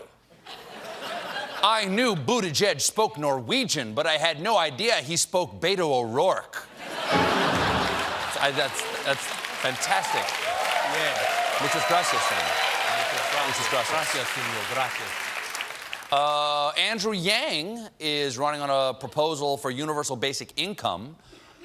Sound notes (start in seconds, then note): 7.1 piano riff; 7.6 applause